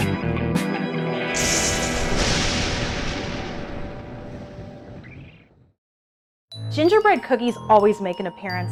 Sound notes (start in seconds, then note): 1.3 thunder striking